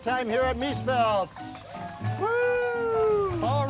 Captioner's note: applause